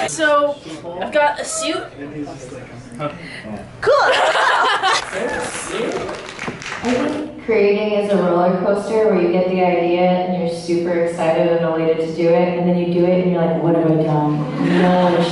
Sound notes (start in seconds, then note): 3.8 laughing; 4.9 audience applauding; 14.2 audience laughing